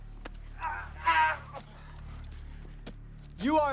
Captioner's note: driver groaning